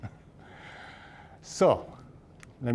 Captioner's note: chuckling